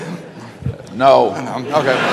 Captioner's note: laughter